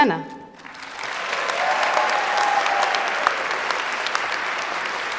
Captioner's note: applause